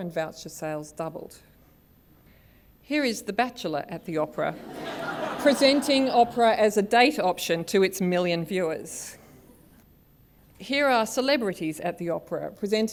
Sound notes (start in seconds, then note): 4.5 laughter